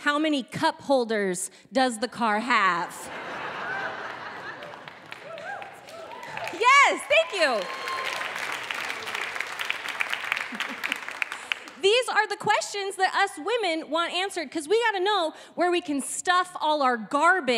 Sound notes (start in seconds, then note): 2.9 audience laughing; 8.6 audience clapping